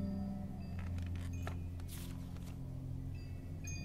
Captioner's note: wind chimes outside the window